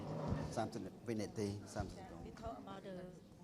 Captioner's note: speaking foreign language